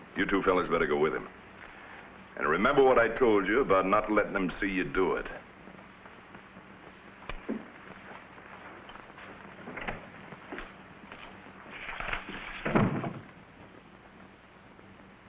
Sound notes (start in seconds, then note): 9.7 door creaks; 12.6 door thuds